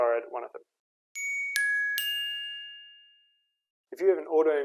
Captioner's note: chimes